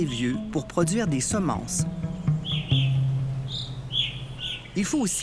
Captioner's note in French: chants d'oiseaux